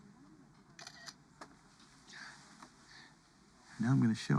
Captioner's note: shutter clicks